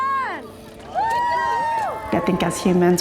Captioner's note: all cheering